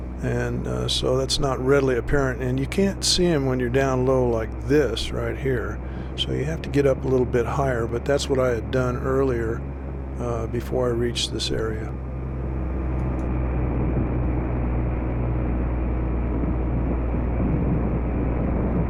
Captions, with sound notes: So that's not readily apparent, and you can't see them when you're down low like this So you have to get up a little bit higher, and that's what I had done earlier before I reached this area (engine hum)